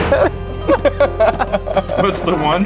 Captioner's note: group laughing; laughs